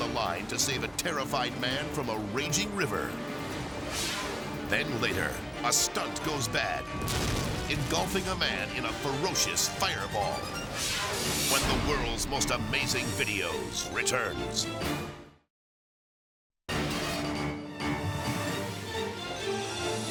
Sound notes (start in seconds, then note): 3.7 graphic swishes; 7.0 flames roaring; 16.7 thrilling music